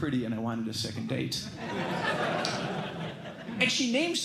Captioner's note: laughter